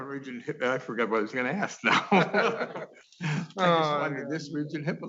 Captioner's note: laughing